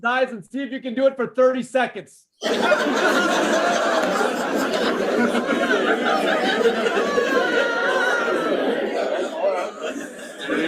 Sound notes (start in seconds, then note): 2.4 chatter